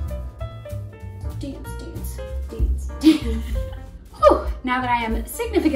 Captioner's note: laughs